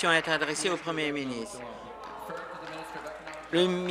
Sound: applause

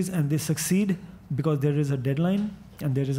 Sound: none

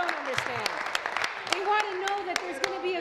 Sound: applause

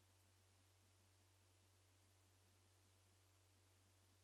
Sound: none

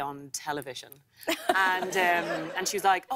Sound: laughter

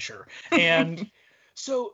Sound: laughs

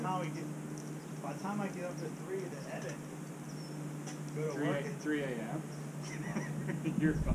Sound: laughs

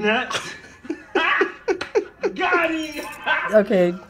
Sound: chuckling

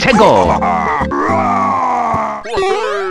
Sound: laughing

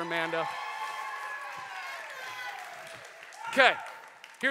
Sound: applause

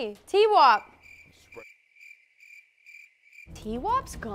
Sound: crickets

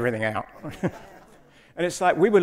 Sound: audience laughs

